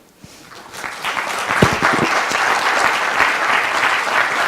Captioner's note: audience applauds